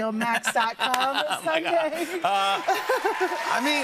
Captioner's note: both laugh; cheers and applause